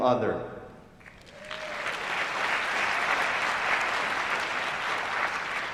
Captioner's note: applause